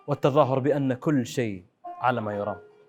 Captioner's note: none